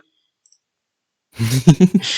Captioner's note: general giggling